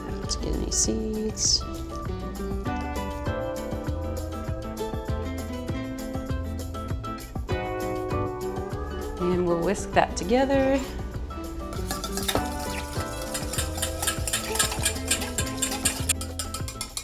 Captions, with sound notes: Let's get any seeds. (gentle music) And we'll whisk that together. (whisking the ingredients loudly)